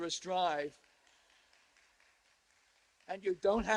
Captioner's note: applause